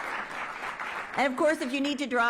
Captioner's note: applause